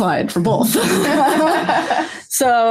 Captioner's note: laughter